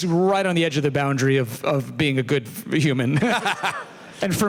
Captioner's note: laughs